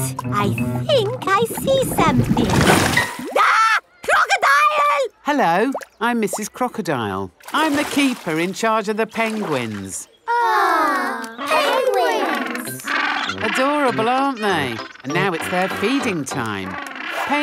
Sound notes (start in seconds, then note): 3.3 screams; 10.8 penguins chatter